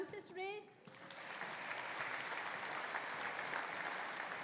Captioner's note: audience applauding